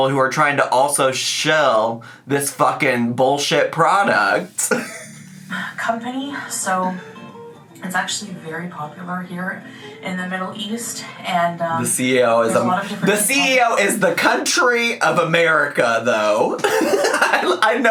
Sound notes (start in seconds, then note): 4.4 laughs; 16.6 laughs